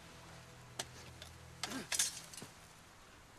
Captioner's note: grunts